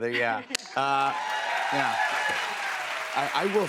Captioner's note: cheers and applause